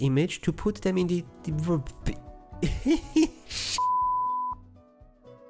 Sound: giggle

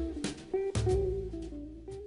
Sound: humming

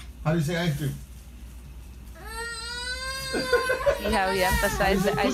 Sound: laughter

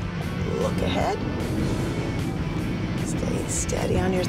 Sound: engine accelerating

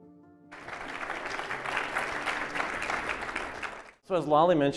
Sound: audience applauding

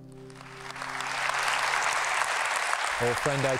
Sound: applause

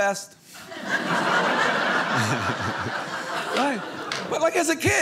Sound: audience laughing

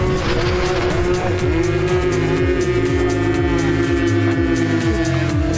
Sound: slowed screaming and cheering

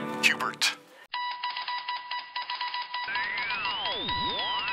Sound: morse code; radio tuning

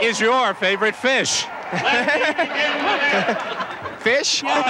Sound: laughing

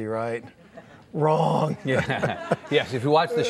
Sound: laughing

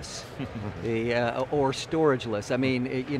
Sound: chuckling

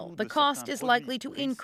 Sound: speaking Foreign Language

